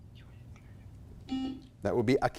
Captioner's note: buzzer blaring